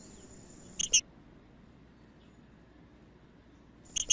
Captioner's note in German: trinca ferro cantando; trinca ferro cantando